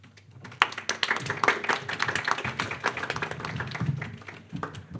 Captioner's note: audience clapping